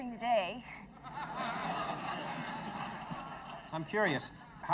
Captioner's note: audience laughing